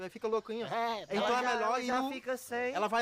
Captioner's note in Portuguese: imita balido; imitando balido